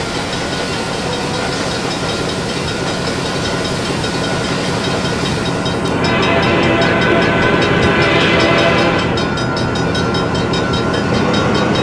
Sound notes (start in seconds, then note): 0.0 railroad crossing ringing; 0.0 diesel engine idling, locomotive bell ringing, H-24-66 Trainmaster horn